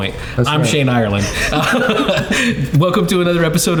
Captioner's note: laughing